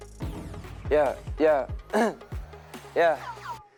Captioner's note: clearing throat